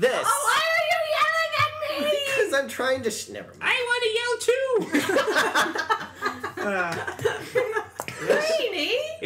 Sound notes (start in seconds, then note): 4.8 laughter